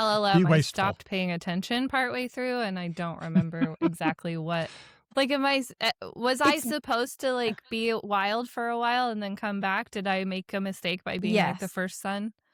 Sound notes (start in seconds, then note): 3.2 laughs